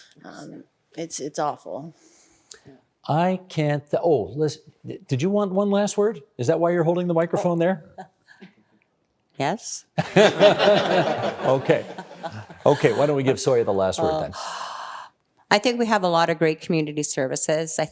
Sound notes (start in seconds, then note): 10.0 everyone laughing